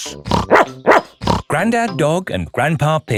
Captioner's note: snorts; barks